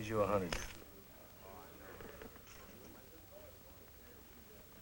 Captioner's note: chatter